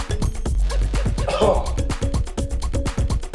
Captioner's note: coughs